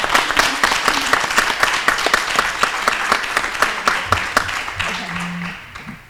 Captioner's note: applause